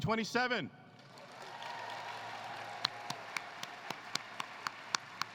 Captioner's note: applause